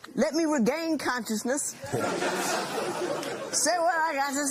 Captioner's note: laughter